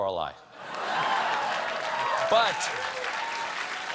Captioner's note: applause